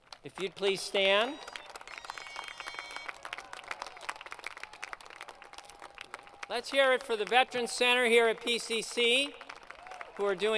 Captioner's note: applause